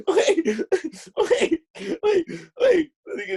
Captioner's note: laughs